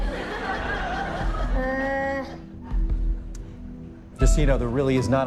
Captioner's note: laughter